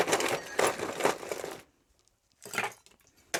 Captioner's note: ice clinking